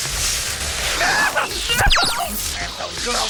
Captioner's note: zapping; yelping